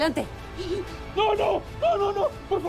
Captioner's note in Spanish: Sollozos